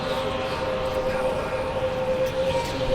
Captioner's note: wind howls and increases velocity